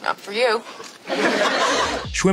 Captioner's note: laughing